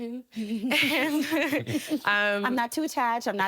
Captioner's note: all chuckle